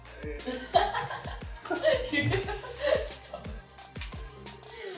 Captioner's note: laughter